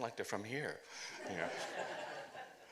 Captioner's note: laughter